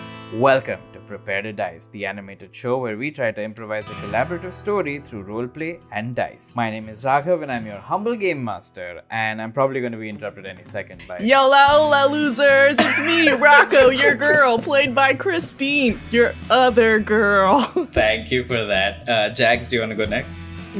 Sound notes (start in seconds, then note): 12.7 laughter